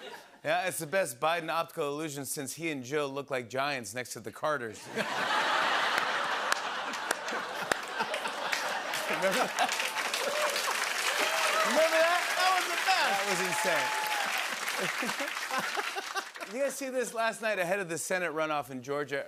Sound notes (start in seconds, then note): 4.6 laughter and applause; 9.9 laughter